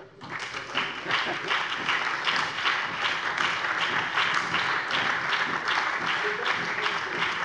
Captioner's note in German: Allgemeiner Beifall